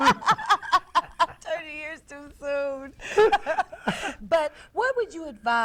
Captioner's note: laughter